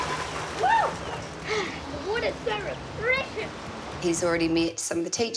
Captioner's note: exhales